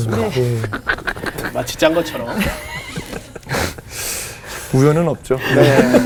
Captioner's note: laughing